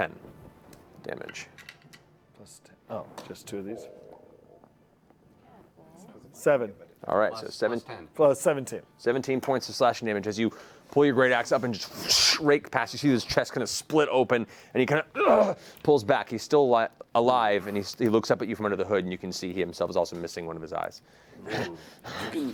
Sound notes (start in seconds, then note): 15.1 grunts; 21.6 pants